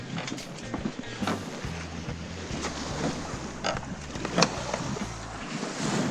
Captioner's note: water splashing; wind whooshing